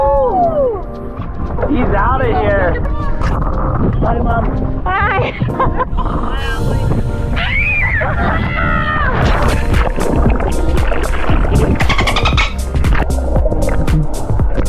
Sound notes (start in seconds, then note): 7.3 screams; 9.0 upbeat music; 9.6 water splashing